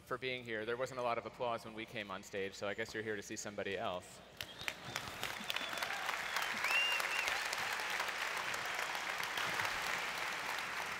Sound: applause

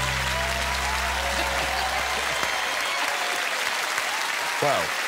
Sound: audience applause

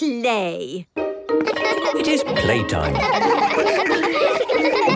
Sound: laughter

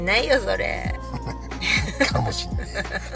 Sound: laughs

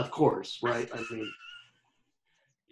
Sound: laughing

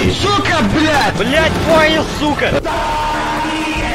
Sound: even more Russian

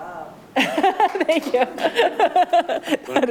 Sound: clerk laughs

